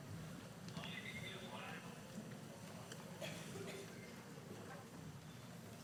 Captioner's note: audience chattering